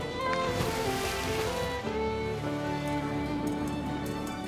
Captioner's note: water splashes